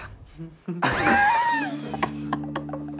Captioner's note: laughing